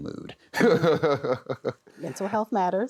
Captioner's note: chuckles